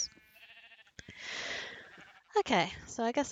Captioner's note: inhales